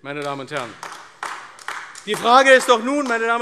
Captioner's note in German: Beifall AfD